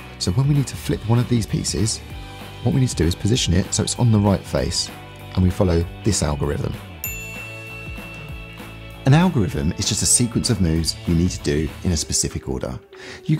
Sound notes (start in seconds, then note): 7.0 bell dings